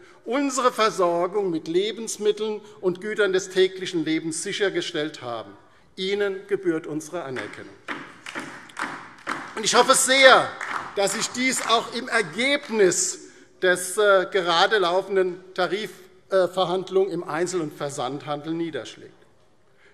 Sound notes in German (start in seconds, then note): 7.3 Beifall